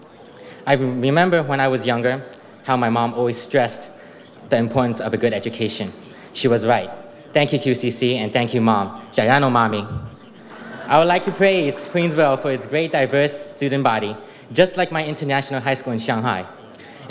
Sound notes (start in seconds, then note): 9.1 speaks in foreign language